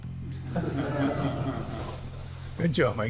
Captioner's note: laughs